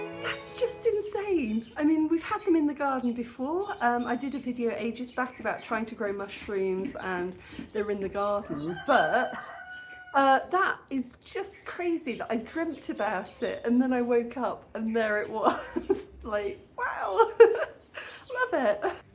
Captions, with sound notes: That's just insane. I mean, we've had them in the garden before. I did a video ages back about trying to grow mushrooms and they were in the garden. But, that is just crazy that I dreamt about it and then I woke up and there it was. [laughing] Like, wow. Love it.